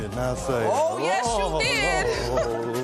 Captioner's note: spectators murmuring